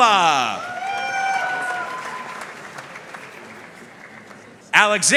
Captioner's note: audience cheering and applauding